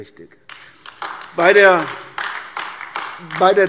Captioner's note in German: Beifall AfD